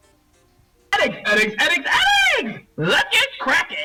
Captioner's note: voiceover